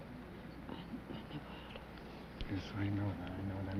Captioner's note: whispering